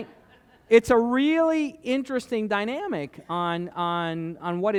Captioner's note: laughter